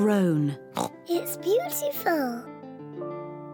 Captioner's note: oinks